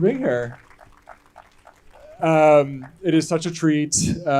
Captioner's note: crowd clapping